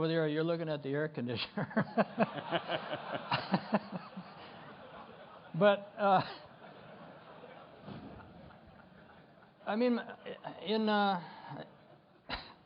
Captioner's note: laughter